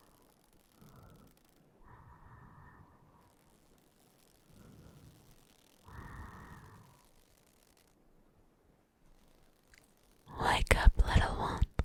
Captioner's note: whispering